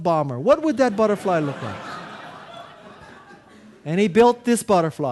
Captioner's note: audience laughing